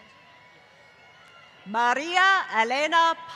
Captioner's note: applause